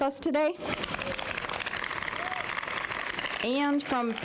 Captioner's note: applause